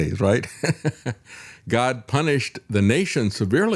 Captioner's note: laughs